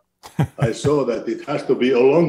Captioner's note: laughs